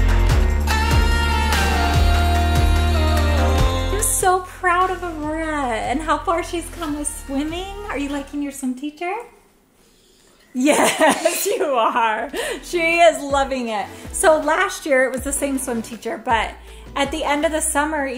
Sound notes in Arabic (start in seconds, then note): 10.5 كريستال تضحك